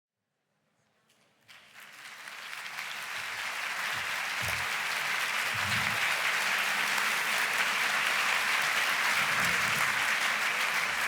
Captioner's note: applause